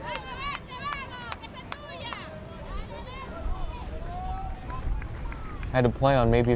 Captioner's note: fans yelling in foreign language